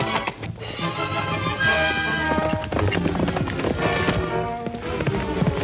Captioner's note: hooves clomping